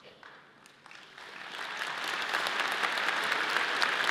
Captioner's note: audience applauds